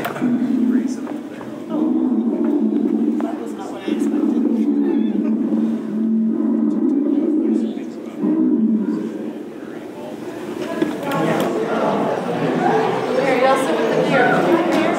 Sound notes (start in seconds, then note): 0.3 bear exhibit recording: low rough growl; 4.8 rumbling bear growl continues as woman chuckles; 9.9 crowd noise increases while entering next room